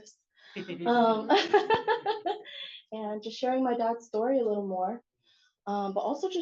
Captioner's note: laughs